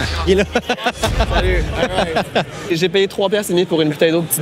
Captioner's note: laughs